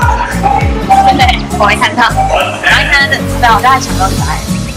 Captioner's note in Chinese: 哈哈